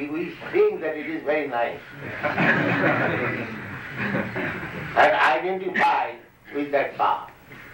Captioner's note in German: Gelächter